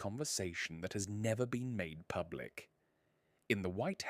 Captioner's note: lower, more intimate narration